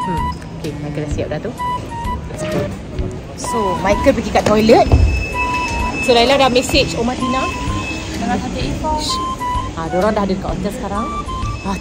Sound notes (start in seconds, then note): 8.3 speaking German